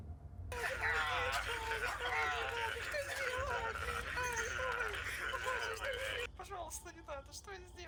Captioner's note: extremely horrible, funny and fat sounds of death